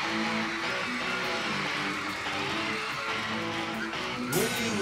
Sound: crowd cheering; lively pop music

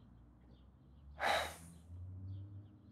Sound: sighs

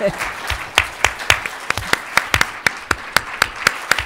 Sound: applause; laugh

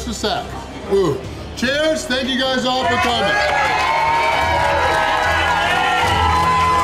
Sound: crowd clapping and cheering

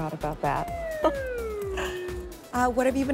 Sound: shrinking sound

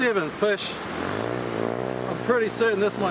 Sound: motor bike revving

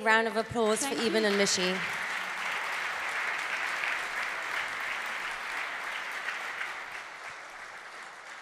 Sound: applause

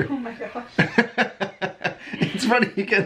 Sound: laughing

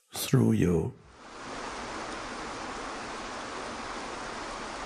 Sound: water rushing

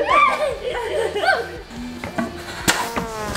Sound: laughing; buzzer; trombone

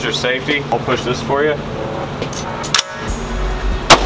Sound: gun cocking; gunshot banging

